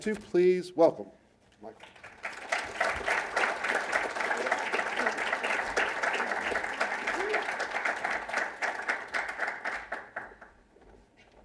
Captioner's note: applause